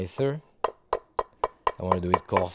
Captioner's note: knife tapping